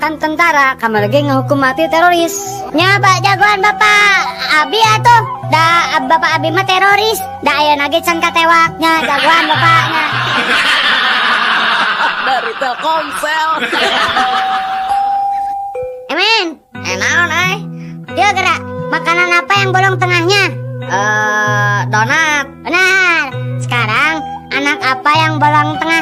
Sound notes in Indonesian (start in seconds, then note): 14.7 tertawa